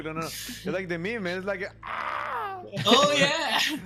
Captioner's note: screams